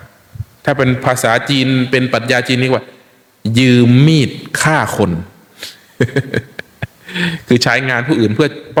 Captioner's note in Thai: เสียงหัวเราะ